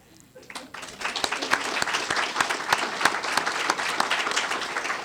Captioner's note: applause